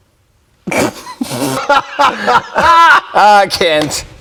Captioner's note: both laughs